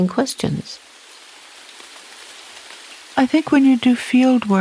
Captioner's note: rain tapping